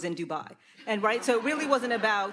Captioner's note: audience laughs